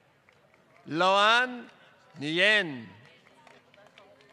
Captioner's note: applause